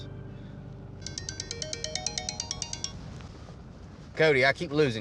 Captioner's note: phone rings